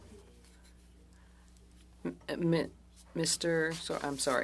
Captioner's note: speaking French